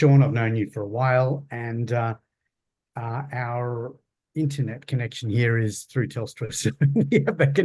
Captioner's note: laughs